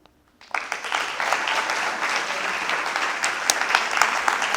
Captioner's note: applause